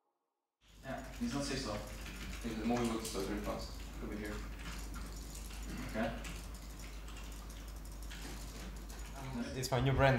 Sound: gaming sounds, team murmuring

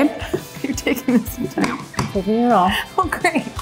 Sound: laughs

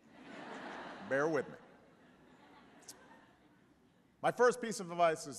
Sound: laughter

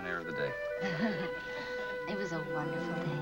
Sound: laughs

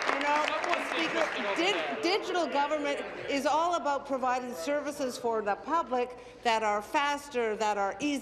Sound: applause

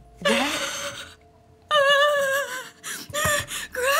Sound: crying

